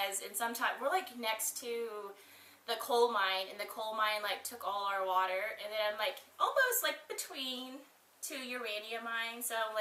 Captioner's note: none